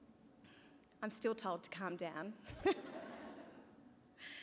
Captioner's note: laughter